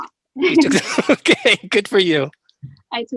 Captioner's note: laughing